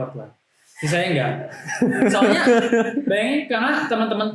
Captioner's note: laughter